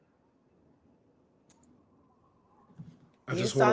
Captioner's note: wind blowing softly